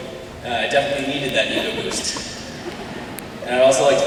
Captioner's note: laughter